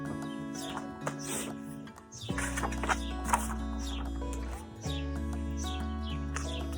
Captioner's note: birds chirp; upbeat music